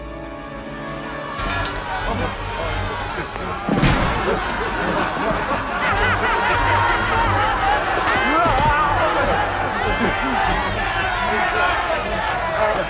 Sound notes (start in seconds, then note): 1.2 slaves muttering; 4.0 laughing; 7.5 grunting